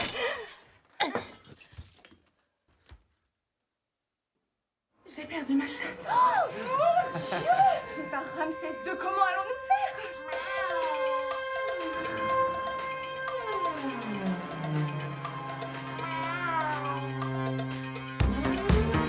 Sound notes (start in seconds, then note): 10.2 imitating cat noises